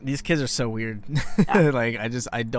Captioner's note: chuckles